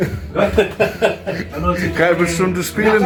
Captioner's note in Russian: смех